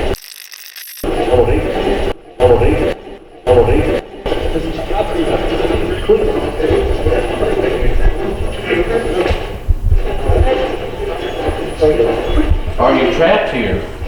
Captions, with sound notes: (radio scratching) (radio voice) (radio voice) (pulsing static) - Are you trapped here?